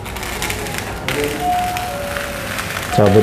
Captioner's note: PET film noise; doorbell ringing